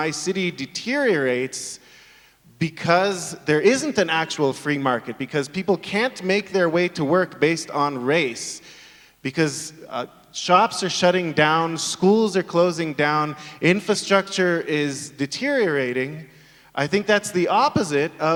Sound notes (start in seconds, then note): none